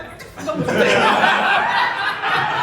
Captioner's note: laughter